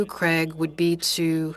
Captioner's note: speaking French